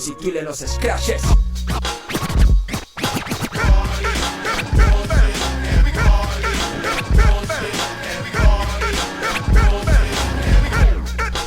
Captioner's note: sounds Scratch Vinyl